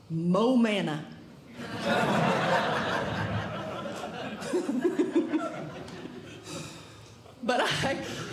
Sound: audience Laughing

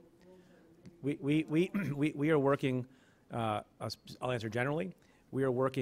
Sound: stutters

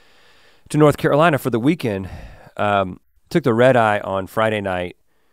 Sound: none

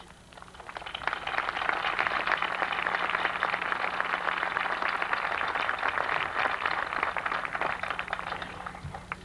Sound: applause

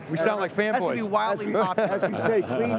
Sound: laughing

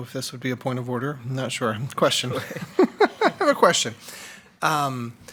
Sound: laughs

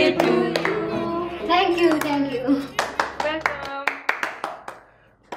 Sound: singing; clapping

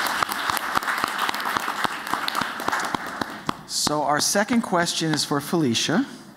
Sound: applause

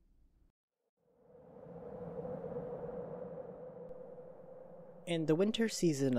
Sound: wind howl

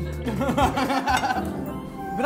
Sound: laughter

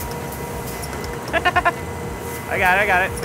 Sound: laughing

